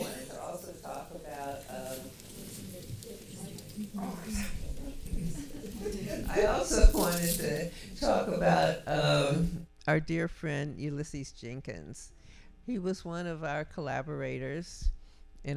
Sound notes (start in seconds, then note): 5.4 audience laughing